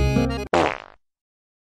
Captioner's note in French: prout